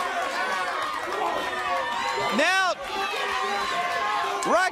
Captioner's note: crowd cheering